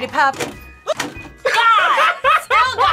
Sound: laughs

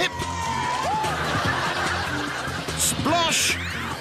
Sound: audience cheering and laughing

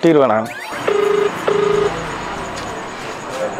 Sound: phone rings

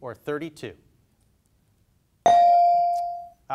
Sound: bell dings

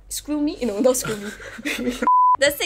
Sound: laughs

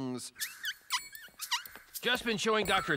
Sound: squeaks

